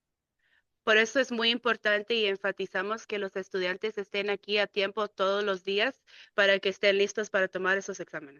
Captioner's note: speaking in Spanish